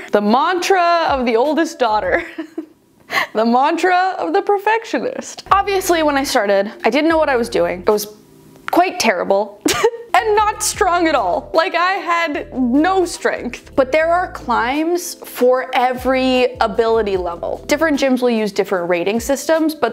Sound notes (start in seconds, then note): 2.7 laughs; 9.8 laughs